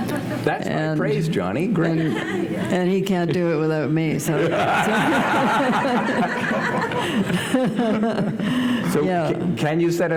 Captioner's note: laughter